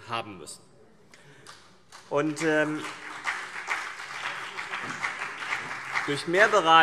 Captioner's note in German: Beifall CDU und BÜNDNIS 90/DIE GRÜNEN